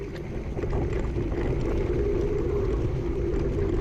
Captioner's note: wheels rumbling